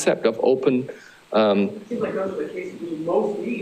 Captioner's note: speaker off mic